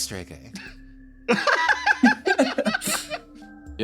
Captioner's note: laughs